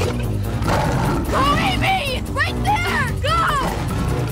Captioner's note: Lion Snarling